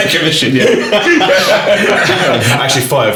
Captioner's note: laughing